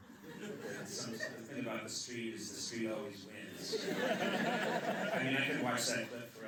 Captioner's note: laughter